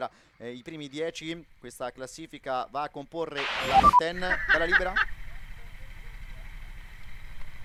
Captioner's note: laughter